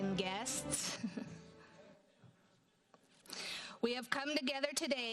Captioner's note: chuckles